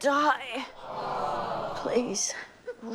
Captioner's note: sighing